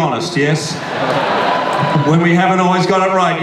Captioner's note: audience laughs and cheers